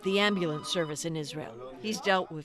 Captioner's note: speaking foreign language